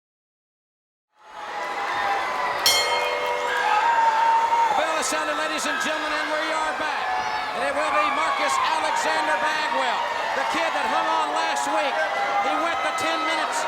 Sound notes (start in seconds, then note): 1.7 crowd cheering; 2.6 bell rings